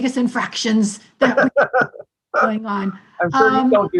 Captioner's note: laughs